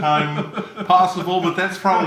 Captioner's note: chuckles